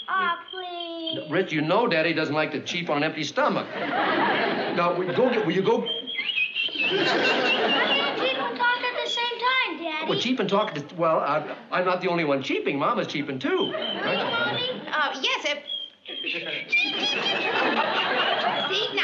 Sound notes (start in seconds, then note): 5.4 ducks chirping; 15.0 cheeping